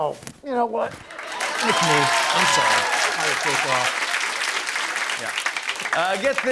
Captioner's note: cheers and applause